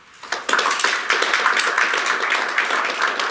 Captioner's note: clapping